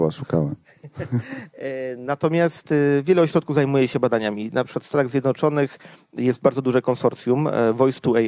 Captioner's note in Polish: śmiech